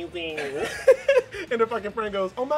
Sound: laughs

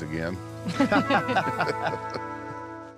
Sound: everyone laughs

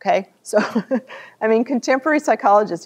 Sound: laughter

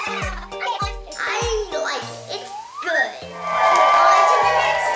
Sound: cheering

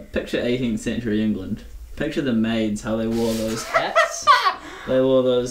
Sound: Benedick laughs

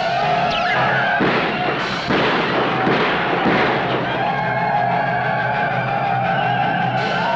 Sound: Yaqui shouting; gunshots blasting; Yaqui shouting

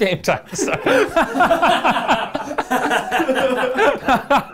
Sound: people laugh

